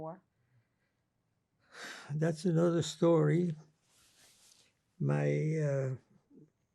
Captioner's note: sighing